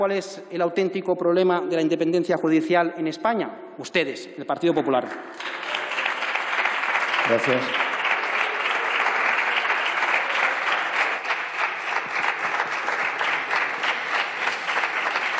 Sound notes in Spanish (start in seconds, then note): 5.7 Aplausos